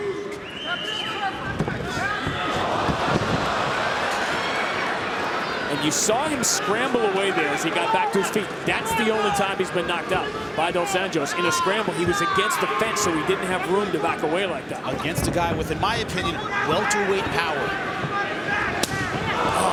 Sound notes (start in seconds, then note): 2.2 crowd cheering